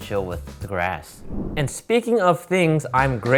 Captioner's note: air whooshing